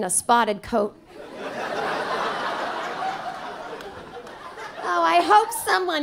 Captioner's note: audience laughing